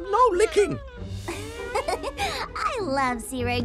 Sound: laughs

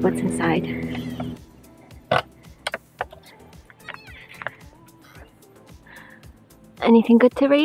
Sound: latch unhooks, door creaks

